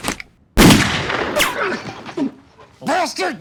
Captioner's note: gunshot